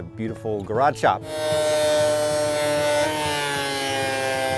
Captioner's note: saw cutting wood